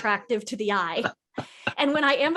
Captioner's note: laughs